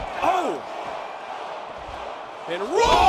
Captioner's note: fans chanting